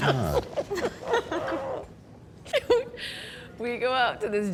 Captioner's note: laughter